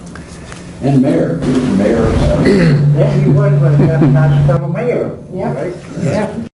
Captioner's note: microphone disturbance